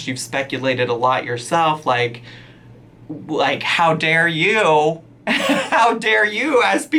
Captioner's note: laughs